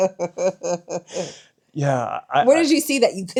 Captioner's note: laughing